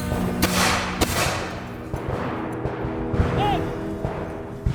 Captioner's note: gunshot cracking continues